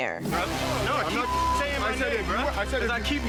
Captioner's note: beep